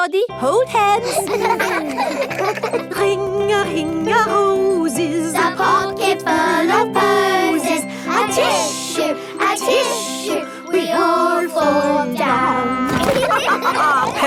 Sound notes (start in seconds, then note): 1.0 giggling; 13.0 all laughing